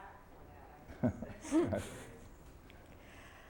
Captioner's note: laughter